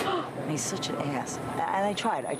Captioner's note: gasps